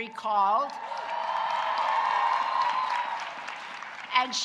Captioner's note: audience cheering